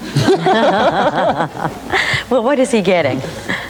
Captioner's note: laughing